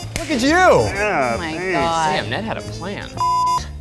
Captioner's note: beep